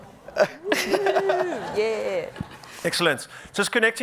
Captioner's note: man laughing; panel members laughing